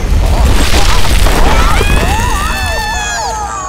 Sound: screaming

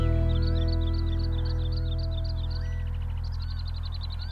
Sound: birds twitter

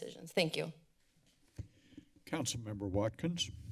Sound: silence

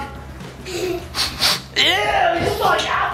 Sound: sniffing

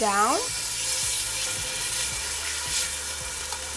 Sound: pan sizzling

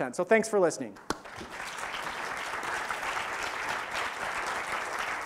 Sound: audience applause

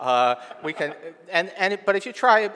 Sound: audience laughing

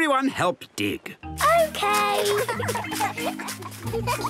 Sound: giggling

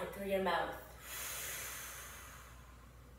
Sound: exhales deeply

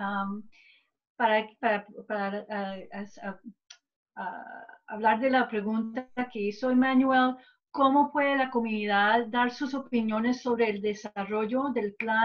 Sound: gives summarization in spanish

